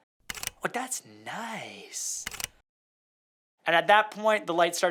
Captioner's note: camera clicking; camera clicking